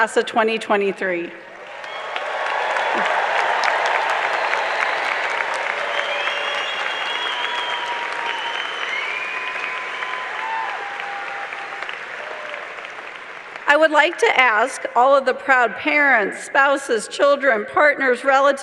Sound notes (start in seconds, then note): 1.5 cheers and applause